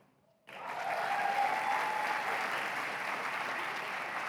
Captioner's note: applause